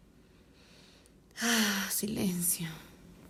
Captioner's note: sighs